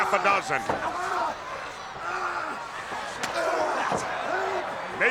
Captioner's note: wrestlers groaning